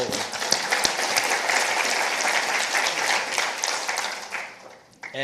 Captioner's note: participants applauding